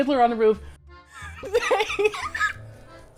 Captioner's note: cracks up